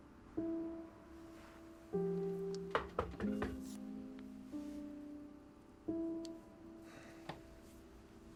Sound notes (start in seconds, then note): 2.7 door knocking